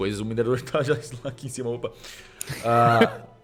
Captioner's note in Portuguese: risadas